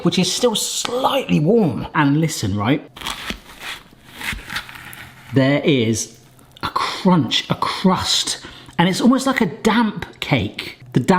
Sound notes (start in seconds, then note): 2.9 food crunching